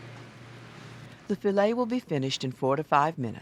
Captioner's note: voiceover